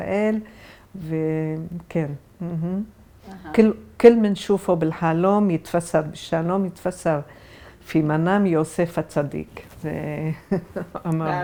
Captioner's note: Arabic